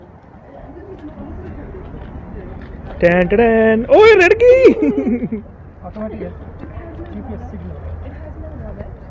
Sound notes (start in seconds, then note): 3.1 playing tone from mouth; 4.1 laugh